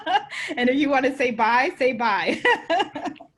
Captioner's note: laughs; laughs